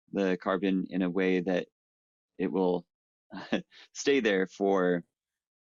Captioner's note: chuckles